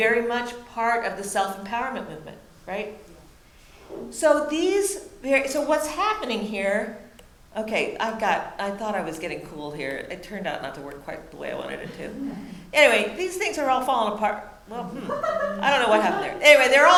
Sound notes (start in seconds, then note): 12.1 audience softly laughs; 14.8 audience member laughs